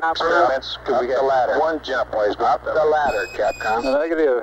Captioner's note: mission Control Audio